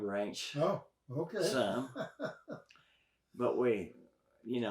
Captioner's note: chuckles